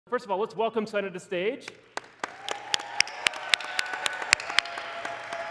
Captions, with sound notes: First of all, let's welcome Sana to the stage. (cheering, applause)